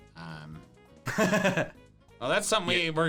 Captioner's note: laughing